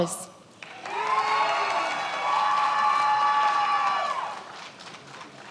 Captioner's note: many applauding